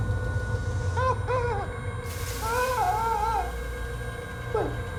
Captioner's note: eerie music; Faraday sobbing